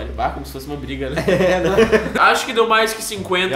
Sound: laugh

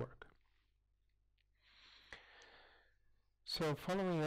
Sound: pause

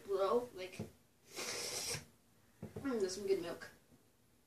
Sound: slurping noises intensify

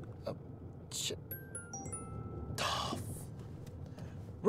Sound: phone chimes

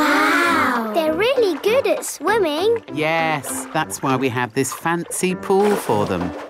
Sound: none

